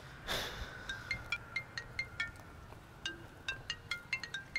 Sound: phone ring

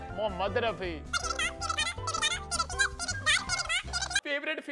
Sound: talking swiftly

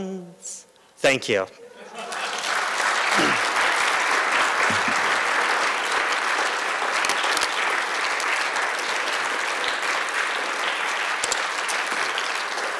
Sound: applause

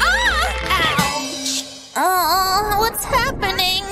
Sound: moaning

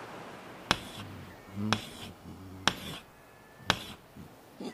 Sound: wood scraping

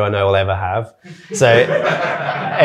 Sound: audience laughing

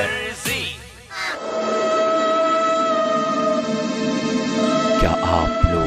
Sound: Spooky sounds reminding us of the Aahat serial of the 90's

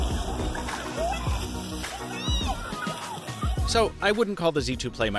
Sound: children chatter

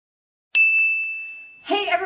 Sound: ding

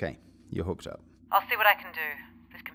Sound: radio

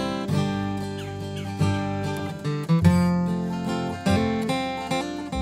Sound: birds chirping

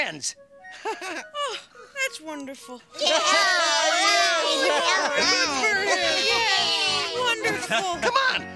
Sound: cheering

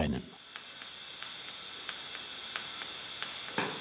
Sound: whir, isolated soft click

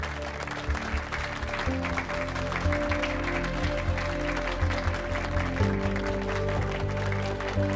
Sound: applause

